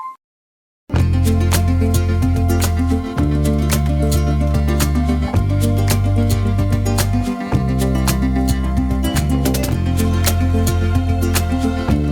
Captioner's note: clap